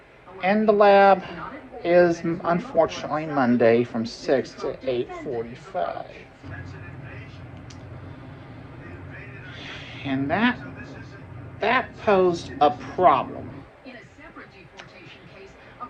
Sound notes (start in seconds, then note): 0.5 imitating Bob Barker's voice; 10.4 normal voice